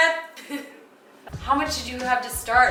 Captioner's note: laughs